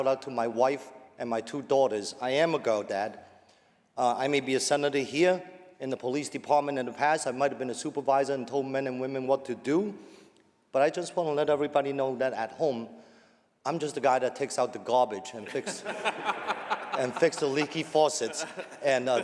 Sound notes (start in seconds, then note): 15.4 laughter